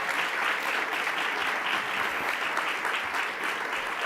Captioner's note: audience applause